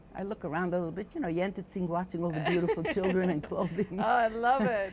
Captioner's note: gossiping